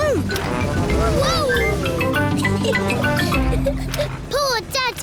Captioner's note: giggles